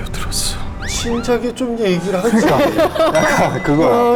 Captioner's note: frustrated